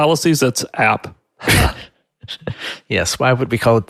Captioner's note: both laugh